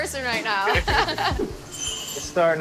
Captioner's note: chuckles